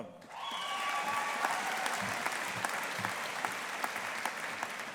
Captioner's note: audience applauding